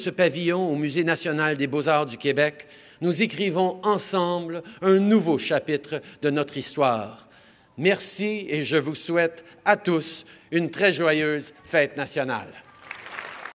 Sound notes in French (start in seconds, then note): 12.6 Applaudissements